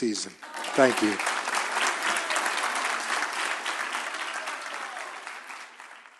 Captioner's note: applause